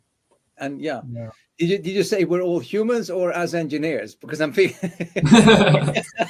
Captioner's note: all laugh